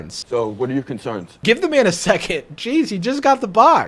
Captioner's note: laughs